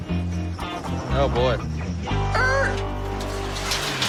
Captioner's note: imitates brakes screeching